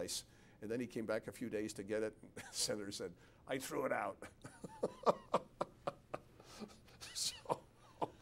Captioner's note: laughs